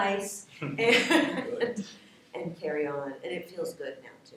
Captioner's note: laughs